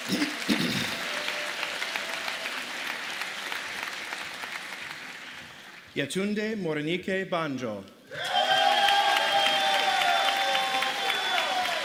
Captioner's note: applause